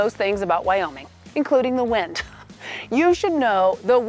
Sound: laughing

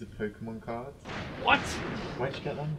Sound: thunder crashes

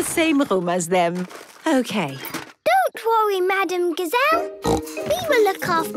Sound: snorting

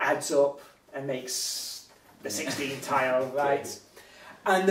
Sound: chuckles

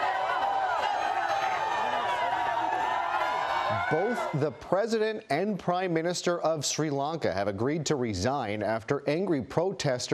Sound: shouting

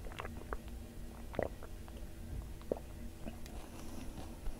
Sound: gulping

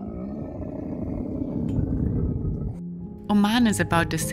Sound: camels grunting

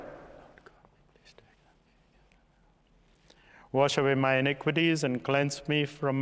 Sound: whispering

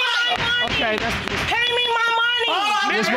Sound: gavel banging

